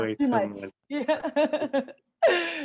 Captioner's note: laughter